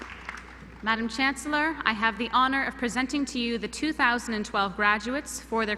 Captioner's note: applause